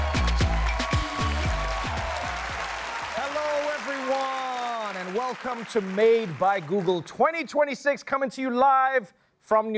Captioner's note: applause